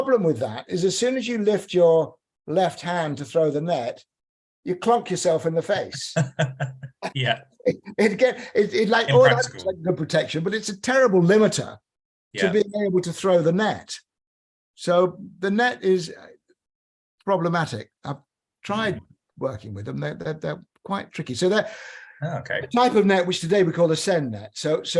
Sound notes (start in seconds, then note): 6.0 laughter